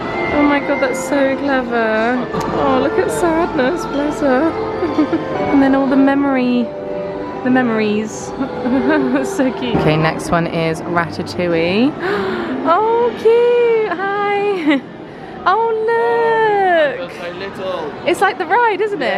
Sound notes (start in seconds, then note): 12.0 gasps